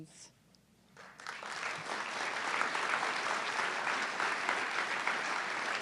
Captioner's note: audience clapping